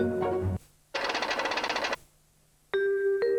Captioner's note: knocking keys; relaxing music